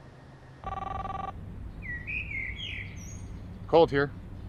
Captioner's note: phone ringing